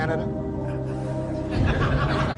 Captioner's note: laughter